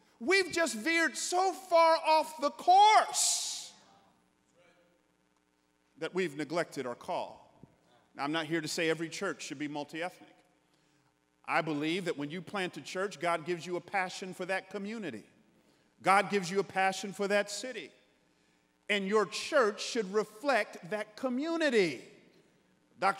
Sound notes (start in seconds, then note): none